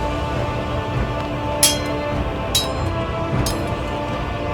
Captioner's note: swords clanging